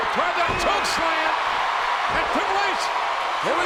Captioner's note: audience cheers